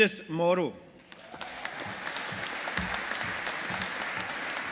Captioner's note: audience applauding